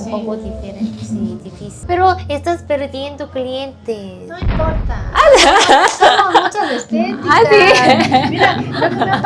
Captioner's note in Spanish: risas